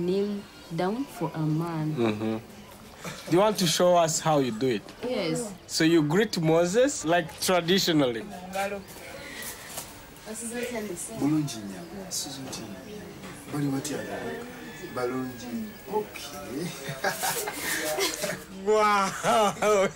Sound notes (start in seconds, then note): 9.5 speaking native language